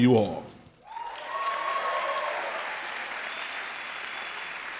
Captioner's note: crowd applauds